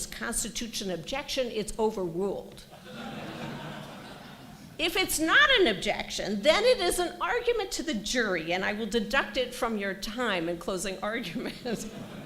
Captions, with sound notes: constitutes an objection, it's overruled. [LAUGHTER] If it's not an objection, then it is an argument to the jury, and I will deduct it from your time in closing argument.